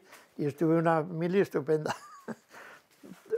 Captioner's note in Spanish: ríe